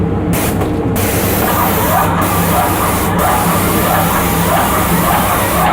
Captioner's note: sprayer whirring and spraying